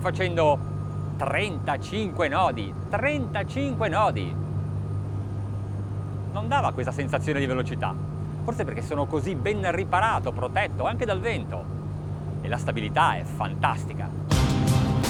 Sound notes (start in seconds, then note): 6.6 speaking foreign language; 14.3 cool, electronic music